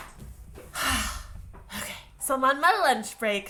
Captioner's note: sigh